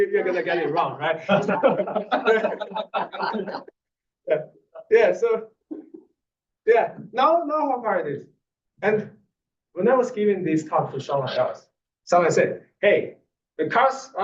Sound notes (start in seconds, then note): 0.0 laugh